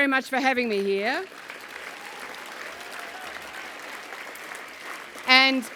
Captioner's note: applause